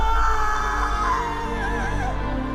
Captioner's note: Olga screaming; dramatic music